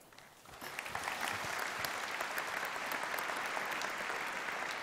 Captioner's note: applause